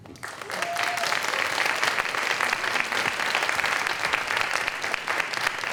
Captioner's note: applause